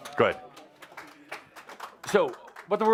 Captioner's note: some applause